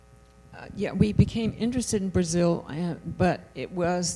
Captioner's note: voiceover